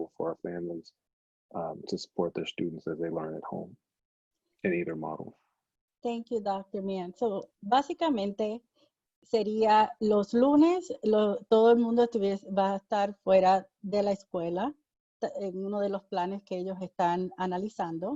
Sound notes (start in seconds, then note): 8.3 speaking in foreign language